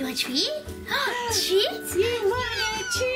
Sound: gasping

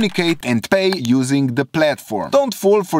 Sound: typing; click

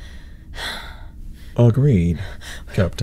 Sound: sigh

